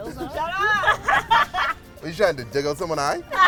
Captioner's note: laughter